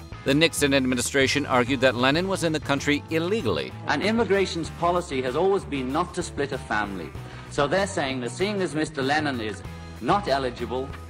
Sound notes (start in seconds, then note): none